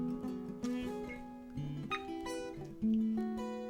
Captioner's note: receiver beeps